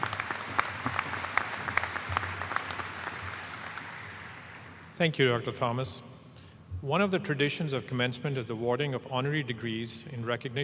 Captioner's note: applause